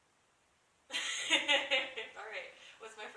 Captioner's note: laughter